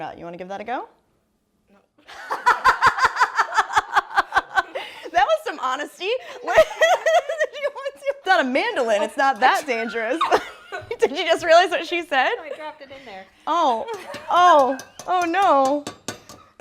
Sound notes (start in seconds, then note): 2.1 laughing; 6.4 laughing; 12.9 laughing; 13.9 microplane tapping against bowl